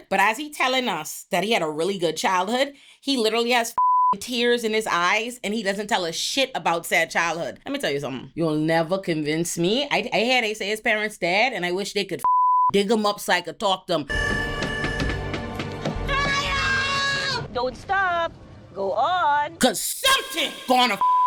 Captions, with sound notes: but as he telling us that he had a really good childhood, he literally has (beep) tears in his eyes and he doesn't tell us shit about sad childhood. Let me tell you something. He'll never convince me. I had A.C. his parents' dad and I wish they could (beep) dig him up so I could talk to him. (dramatic music) (screaming) Don't stop. Go on. Because something gonna (beep)